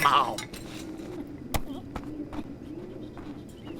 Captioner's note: Horatio angrily walks away. Kakkay squeaks uncertainly